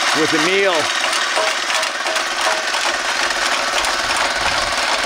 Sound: rock crusher rattling

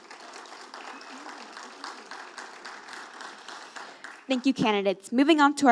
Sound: audience applauding

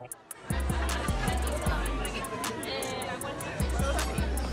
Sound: people chattering

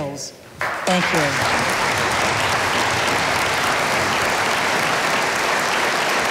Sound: audience applauding

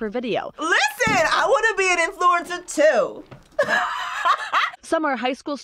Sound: laughs

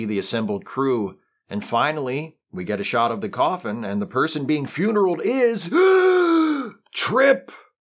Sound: gasp

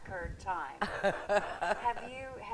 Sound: laughing

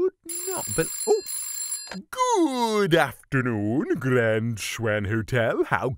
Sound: phone rings; on phone

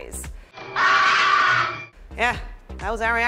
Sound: screams

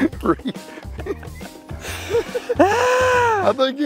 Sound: laughs

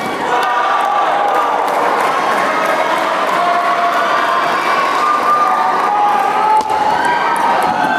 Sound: applause

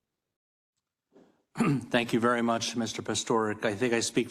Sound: cough

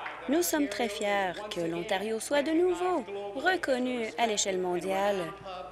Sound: applause

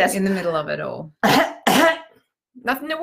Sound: imitates cough

